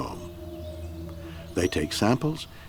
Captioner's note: birds chirp; slow eerie music